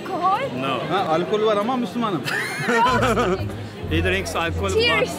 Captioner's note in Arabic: بالتركية; ضحك